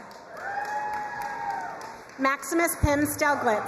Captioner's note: crowd cheering and applauding